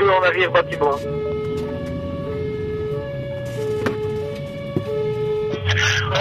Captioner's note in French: sirènes